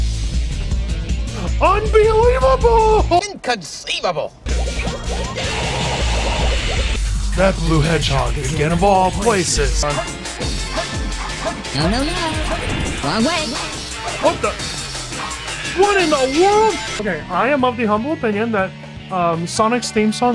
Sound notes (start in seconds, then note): 4.6 oinking noises